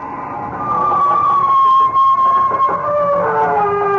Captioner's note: screaming